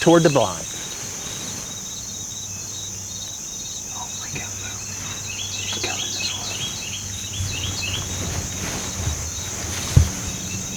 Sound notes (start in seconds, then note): 2.9 whispering